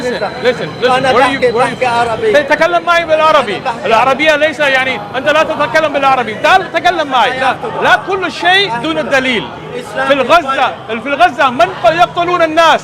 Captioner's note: Arabic